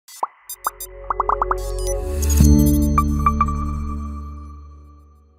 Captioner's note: electronics popping and beeping